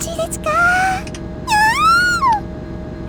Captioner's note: maniacal squee